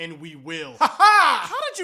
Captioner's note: weird laughing